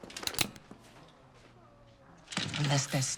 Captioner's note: gun cocks